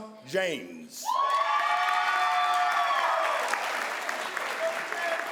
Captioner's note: crowd applauds